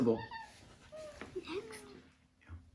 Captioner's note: giggling